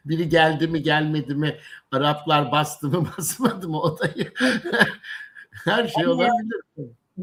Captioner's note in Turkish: kahkaha